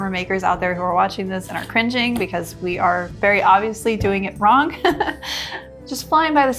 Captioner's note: chuckles